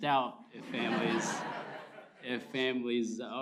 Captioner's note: laughter